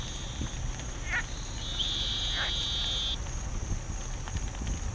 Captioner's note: fire crackling